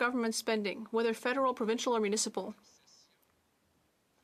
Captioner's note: speaking French